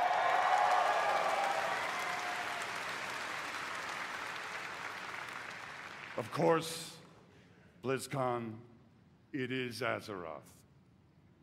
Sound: cheering

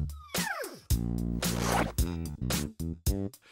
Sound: sound of zipper

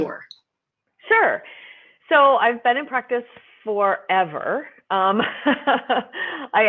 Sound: laughs

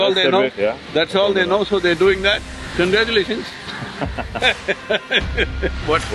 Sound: both laugh

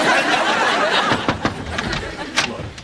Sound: knock on door

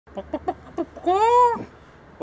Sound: chicken sounds

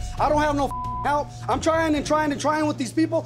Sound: beep

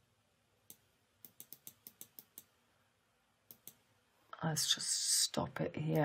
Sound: mouse clicks

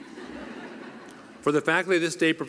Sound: laughter

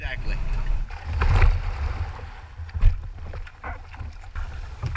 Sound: splashing of waves

